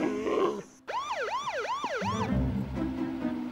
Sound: police siren

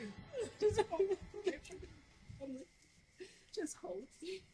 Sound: Trina crying

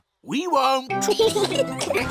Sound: both giggling

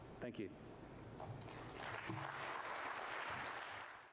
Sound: applause

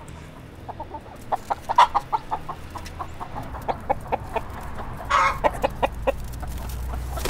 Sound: lots of excited chicken chatter

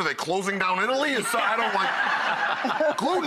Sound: laughing

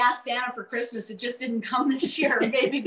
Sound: soft laughing

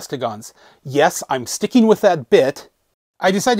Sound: yelling a bit

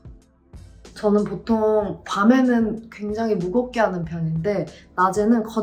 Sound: speaking in Korean

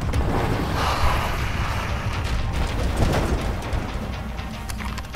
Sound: tires screeching

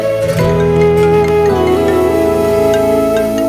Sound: cell phone ringing

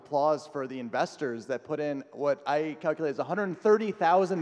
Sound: audience clapping

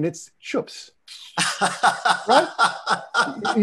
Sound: laughter

